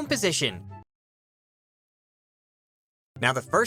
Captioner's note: uncomfortable silence